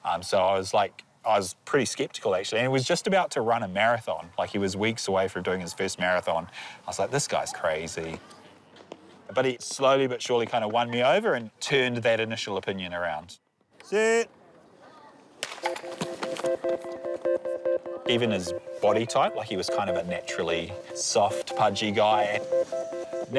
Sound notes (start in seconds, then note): 15.4 clap!